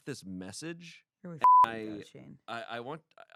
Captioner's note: beep